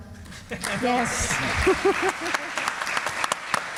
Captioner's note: audience applauds